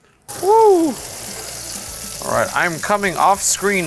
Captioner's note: chicken sizzling